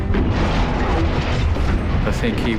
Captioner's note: explosions